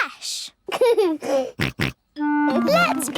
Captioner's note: giggles, snorts